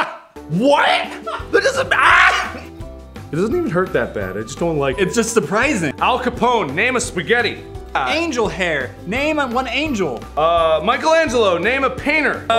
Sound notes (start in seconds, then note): 3.2 Babyish voice